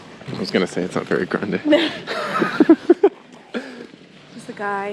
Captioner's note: they laugh